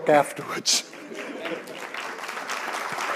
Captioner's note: applause